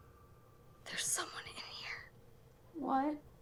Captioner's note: whispers